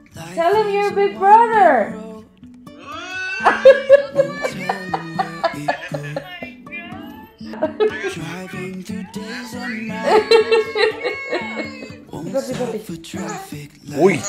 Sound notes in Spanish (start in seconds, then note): 3.3 La risa